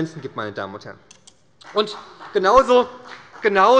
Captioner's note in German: Beifall bei Abgeordneten der SPD